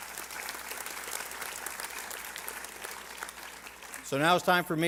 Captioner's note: applause